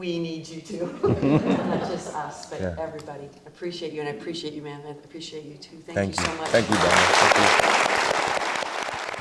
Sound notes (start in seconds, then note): 1.0 audience chuckling; 6.1 audience applauding